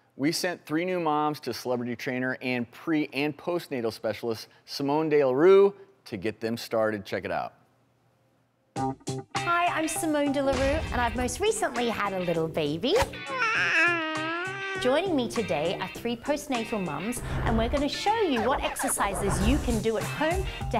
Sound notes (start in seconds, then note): 8.8 rhythmic music; 13.3 cooing